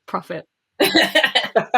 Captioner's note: laughs